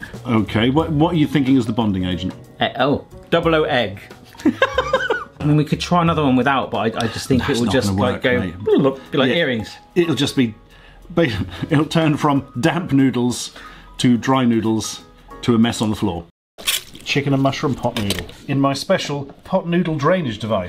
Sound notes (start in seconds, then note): 4.3 laughs; 8.3 burbles lips